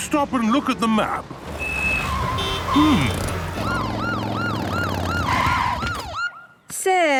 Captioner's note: honking, sirens